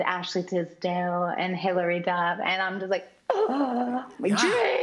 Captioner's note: gasps